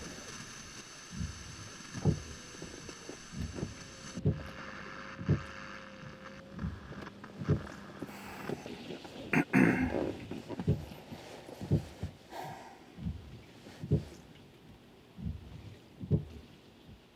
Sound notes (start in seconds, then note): 4.8 static hissing; 9.3 Len clearing throat